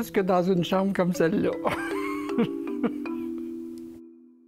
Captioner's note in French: Rires